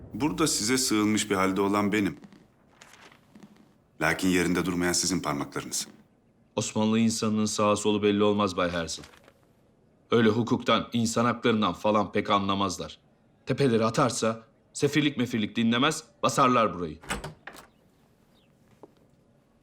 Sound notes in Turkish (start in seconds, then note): 17.0 Kapı açılma sesi